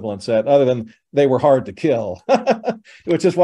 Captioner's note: laughs